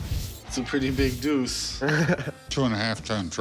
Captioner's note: laughs